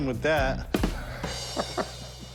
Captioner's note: laughing